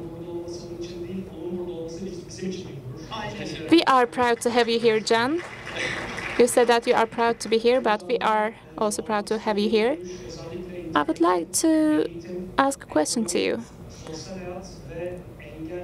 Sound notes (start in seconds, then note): 4.9 applause